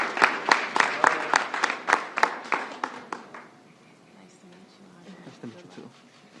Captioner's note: applause